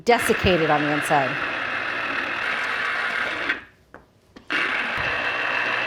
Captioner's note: juicer whirring